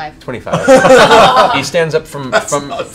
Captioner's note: laughter